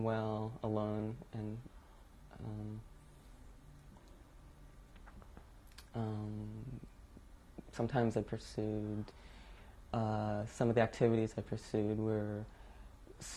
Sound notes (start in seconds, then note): 1.7 pauses for 6 seconds